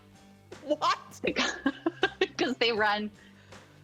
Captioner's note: laughing